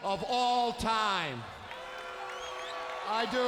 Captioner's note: audience booing